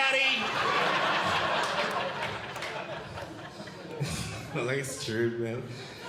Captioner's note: audience Laughing